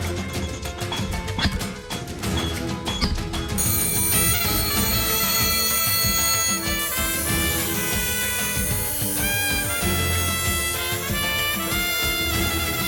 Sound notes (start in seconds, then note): 4.0 buzzing